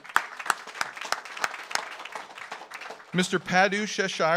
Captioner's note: audience applauds